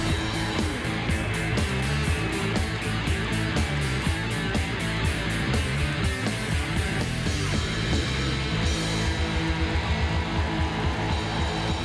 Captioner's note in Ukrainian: оплески